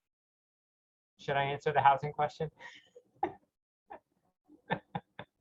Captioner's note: laughing